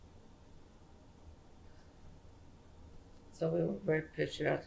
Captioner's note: pauses for 3 seconds